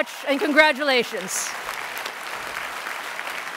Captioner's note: applause